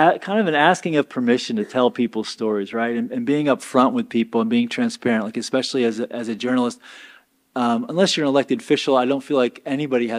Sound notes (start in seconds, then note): none